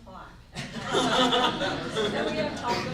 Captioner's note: group laughs